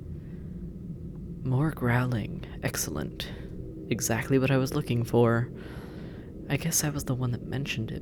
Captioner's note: exasperated